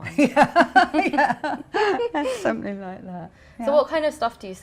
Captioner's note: laughs